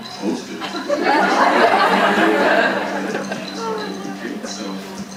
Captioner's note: audience laughing